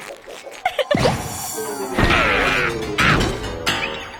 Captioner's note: screaming; coughing; crashing